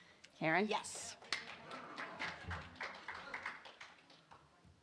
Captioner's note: audience applauding